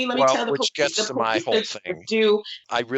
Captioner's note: fake cries